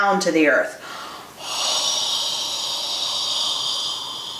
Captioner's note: exhales